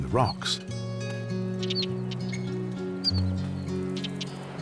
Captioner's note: bird chirping